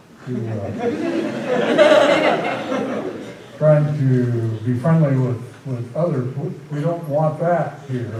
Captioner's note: laughter